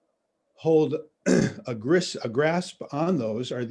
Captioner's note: clears throat